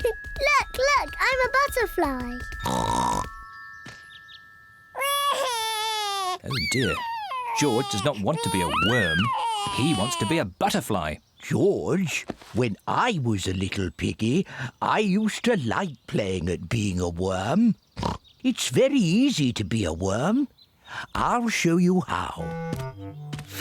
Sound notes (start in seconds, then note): 2.6 snorts; 4.9 cries; 18.0 snorts